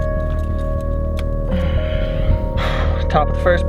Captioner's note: groans